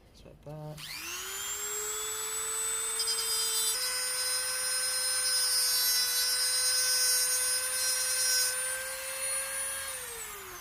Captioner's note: loud dremmel whirring